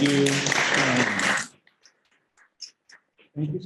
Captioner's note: applause